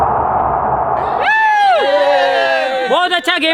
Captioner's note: cheering